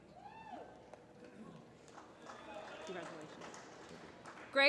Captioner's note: applause